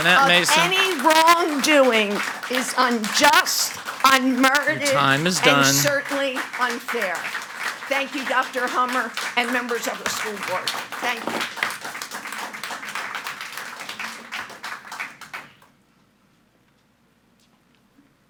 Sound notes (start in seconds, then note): 6.9 audience applauding; 12.2 audience applauding